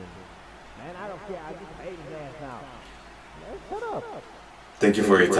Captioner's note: mixed chatter